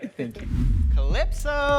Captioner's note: image whooshes